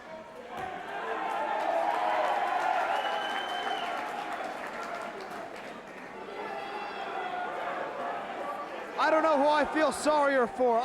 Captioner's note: crowd cheering